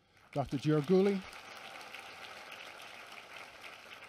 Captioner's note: applause